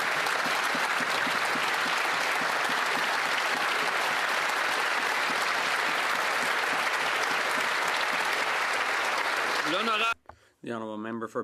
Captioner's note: some Applause